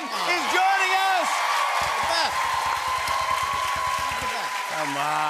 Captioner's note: boisterous cheering and applause; drumming